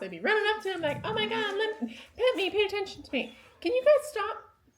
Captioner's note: whines